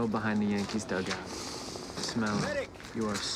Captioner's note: sniffs